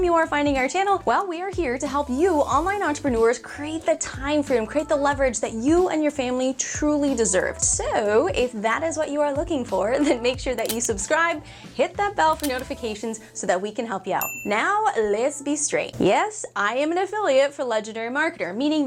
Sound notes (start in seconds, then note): 14.2 ding